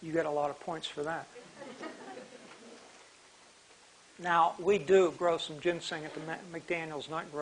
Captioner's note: laughter